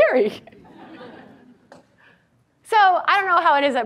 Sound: audience laughs

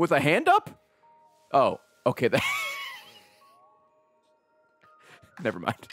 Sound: laughs

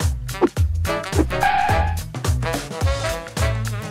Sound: car screeching

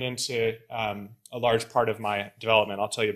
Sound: none

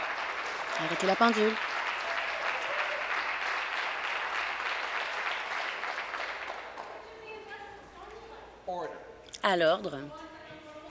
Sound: applause

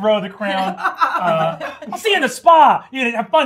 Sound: gamers laughing

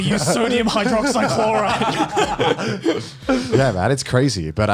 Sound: laughs

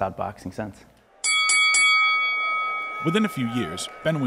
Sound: bell dings

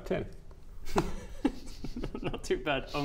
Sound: concerning DM giggles

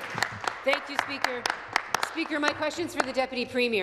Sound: applause

